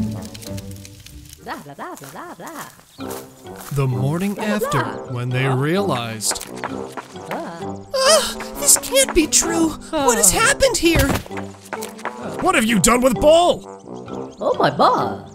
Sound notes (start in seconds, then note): 7.8 woman 1 shouting